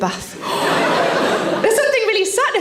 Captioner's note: Sarah gasps